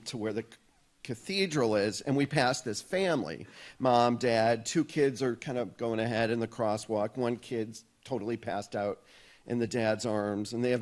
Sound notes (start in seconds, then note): none